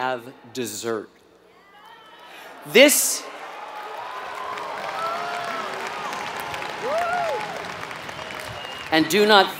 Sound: applause

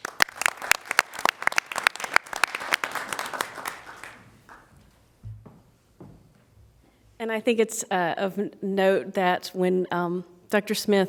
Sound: applause

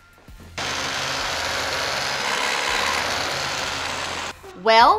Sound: vacuum whirling

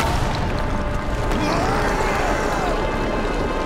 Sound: screaming

